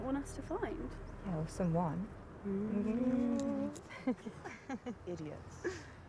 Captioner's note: both laughing